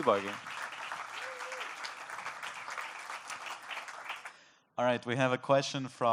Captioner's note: applause